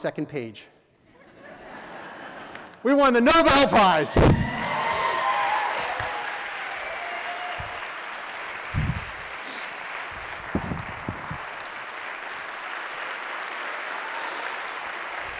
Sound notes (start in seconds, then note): 1.0 laughter; 4.2 audience: Clapping